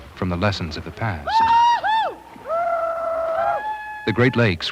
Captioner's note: cheering